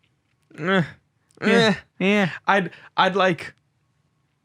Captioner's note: groaning